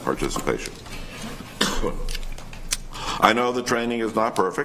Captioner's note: coughs